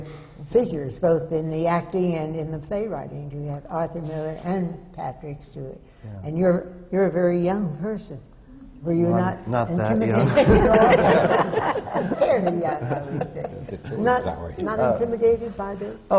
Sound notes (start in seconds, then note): 10.1 laughter